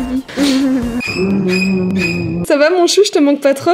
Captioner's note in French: rire malsain de la nièce